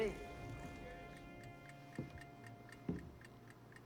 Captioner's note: ticking clock